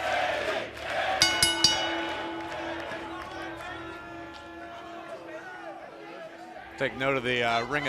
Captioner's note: bell ringing